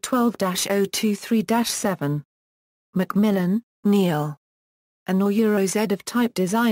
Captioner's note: German